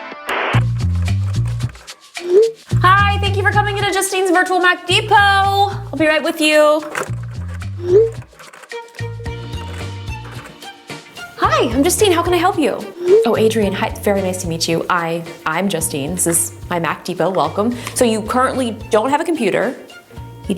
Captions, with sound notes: (upbeat music) (phone chimes) - Hi, thank you for coming into Justine's virtual Mac Depot. I'll be right with you. (phone chimes) (computer keyboard clucking) Hi, I'm Justine. How can I help you? Oh, Adrian, hi, very nice to meet you. I'm Justine. This is my Mac Depot, welcome. So, you currently don't have a computer.